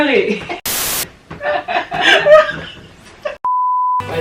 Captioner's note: dissolving in giggles